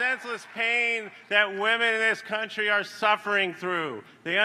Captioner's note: applause